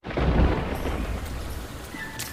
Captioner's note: rain and thunder